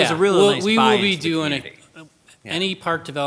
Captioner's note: overlapping chattering